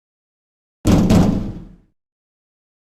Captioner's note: pound, pound